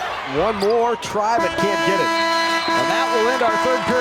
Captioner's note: horn toots